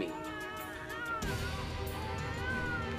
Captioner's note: baby crying